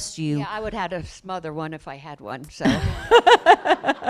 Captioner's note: laughter